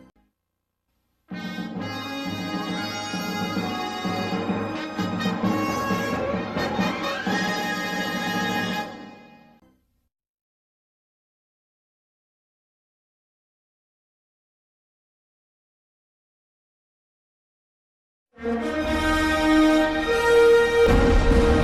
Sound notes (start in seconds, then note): 1.3 synthesized fanfare plays; 11.0 silence; 18.4 bombastic fanfare playing